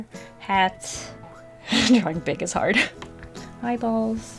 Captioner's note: laughs